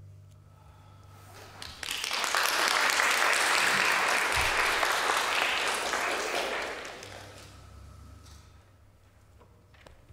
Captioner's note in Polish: Aplauz